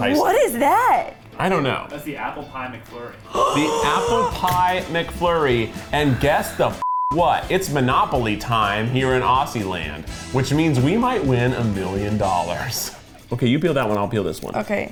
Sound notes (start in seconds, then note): 3.2 gasps